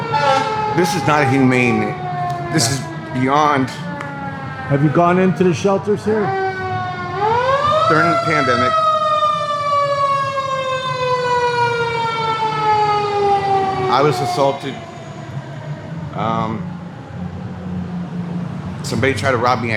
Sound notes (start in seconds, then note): 0.1 horn blaring; 9.8 siren wailing